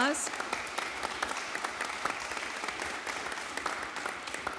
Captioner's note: audience applauding